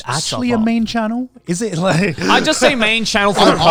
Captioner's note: chuckles